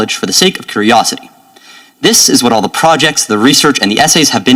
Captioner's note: none